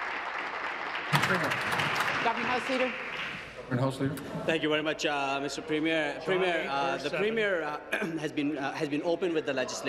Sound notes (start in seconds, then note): 2.2 applause